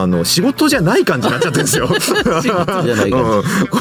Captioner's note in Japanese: 笑い